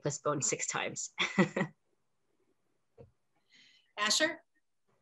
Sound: laughs

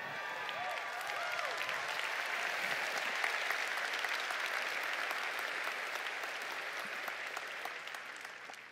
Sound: applause

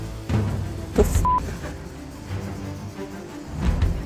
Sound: beep

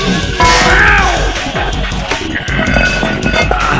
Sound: metal Clank; grunts

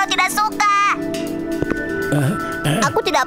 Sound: gasping

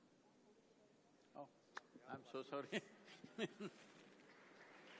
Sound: laughs; applause

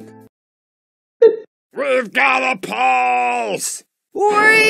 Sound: bip

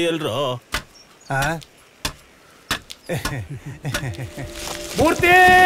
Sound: saw Sound

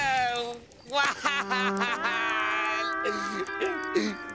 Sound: crying

